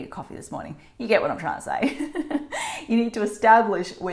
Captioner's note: laughing